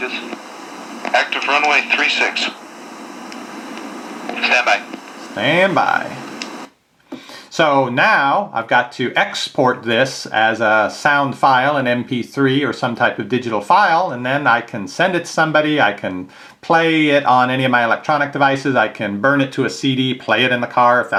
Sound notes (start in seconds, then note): 0.3 voiceover; 4.5 voiceover